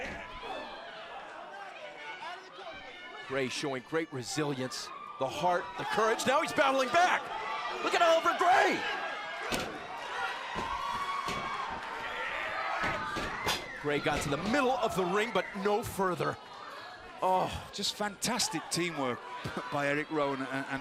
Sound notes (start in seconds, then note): 0.0 crowd chatter; 3.9 crowd cheering